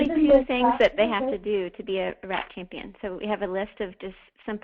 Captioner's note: multiple voices